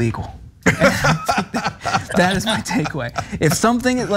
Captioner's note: laugh